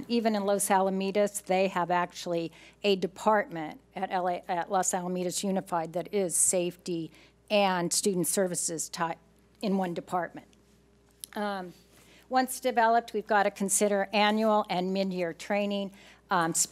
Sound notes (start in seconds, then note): none